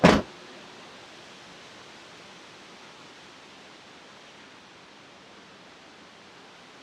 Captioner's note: door slams; leaves rustle